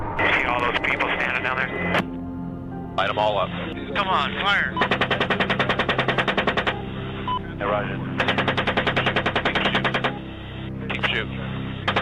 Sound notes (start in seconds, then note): 0.0 ominous music; 4.8 helicopter guns rattle and burst